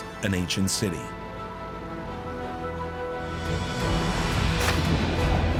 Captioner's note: engine chugging